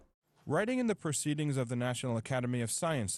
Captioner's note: voiceover